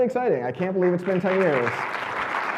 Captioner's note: audience clapping